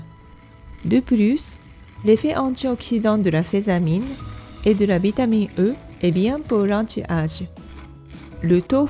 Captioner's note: grind